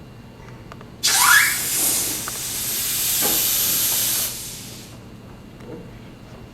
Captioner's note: the gas goes pffft into the balloon